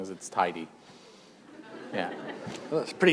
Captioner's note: laughter